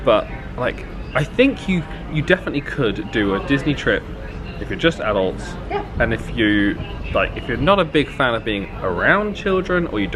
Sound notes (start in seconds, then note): none